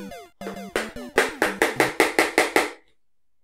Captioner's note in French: bruit énervant de la manette contre la chaise